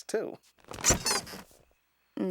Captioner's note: squeaks